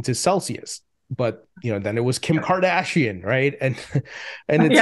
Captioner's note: chuckles; laughs